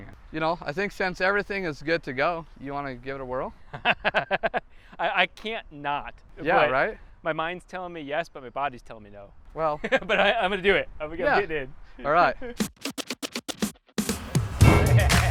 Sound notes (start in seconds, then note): 3.7 laughs